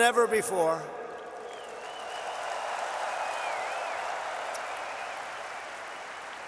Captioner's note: applause